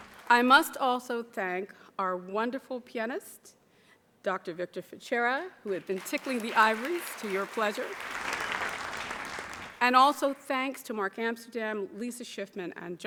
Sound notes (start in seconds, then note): 8.3 audience applauds